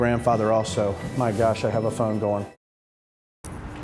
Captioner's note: phone ringing